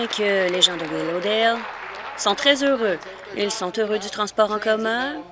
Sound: applause

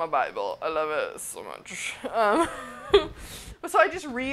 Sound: laughs

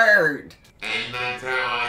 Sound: in robo voice

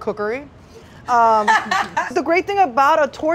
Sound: laughs

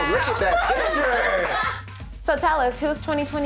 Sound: ladies laughing

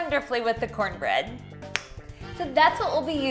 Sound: snaps fingers

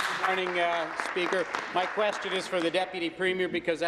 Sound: applause

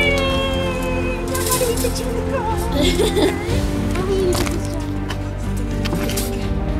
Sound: laughter

